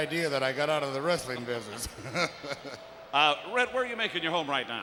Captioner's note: laugh